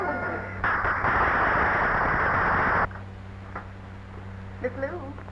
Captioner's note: audience applauding